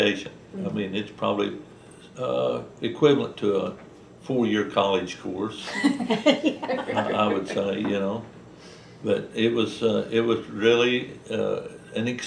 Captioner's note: laughter